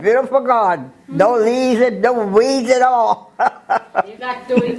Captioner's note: laugh